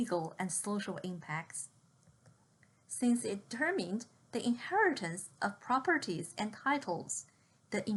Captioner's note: click